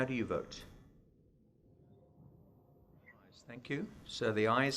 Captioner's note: audio cut out